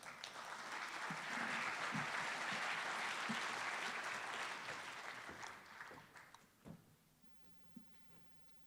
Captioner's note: applause